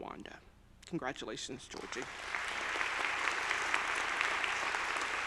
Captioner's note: audience applauding